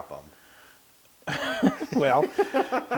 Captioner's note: laugh